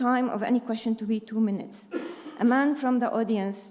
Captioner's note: attendee coughing